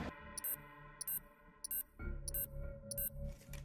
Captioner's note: countdown beep continues